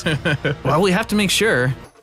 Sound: giggle

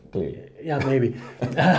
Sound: both laughing

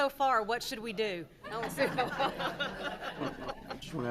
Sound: laughing

